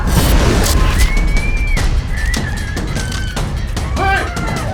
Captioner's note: suspenseful music; needle whooshing